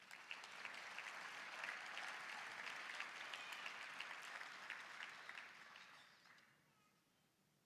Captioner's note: applause, cheering